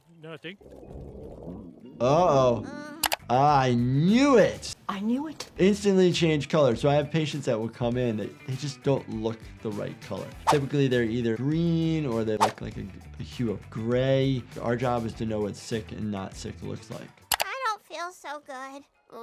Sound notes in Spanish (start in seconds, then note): 0.5 gruñido de estómago; 2.4 Lisa gimiendo enfermiza